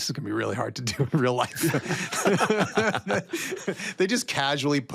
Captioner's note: all laugh